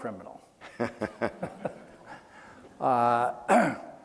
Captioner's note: laughing